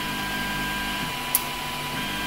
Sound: click

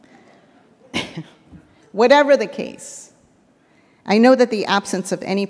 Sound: laughs

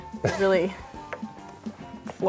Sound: laughs

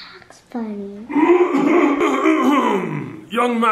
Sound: clears throat

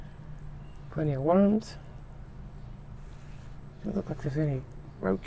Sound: none

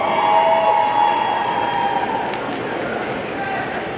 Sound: audience cheering

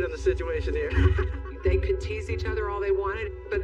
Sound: laughs

